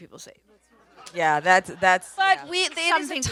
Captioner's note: audience laughs